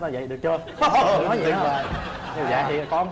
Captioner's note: laughing